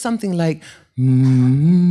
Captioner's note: hums